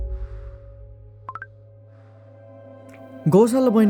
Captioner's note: Snapchat notification sound